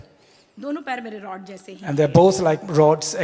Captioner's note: speaks foreign language